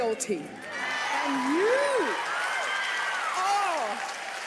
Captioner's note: audience applauds